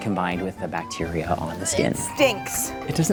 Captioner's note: gagging